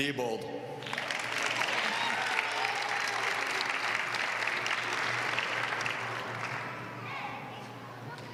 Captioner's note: applause